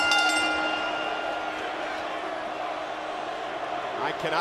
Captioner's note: bell dinging